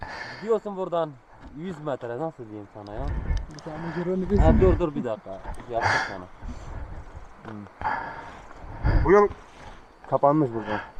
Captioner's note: in Turkish